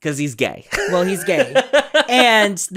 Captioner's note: laughs